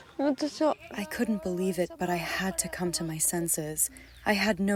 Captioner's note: through translator